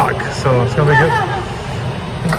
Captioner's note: laughs